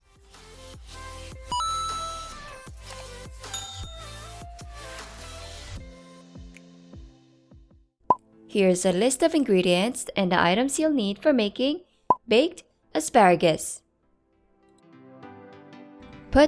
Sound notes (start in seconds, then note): 0.0 coin drops; 1.5 mouse clicking and bell ringing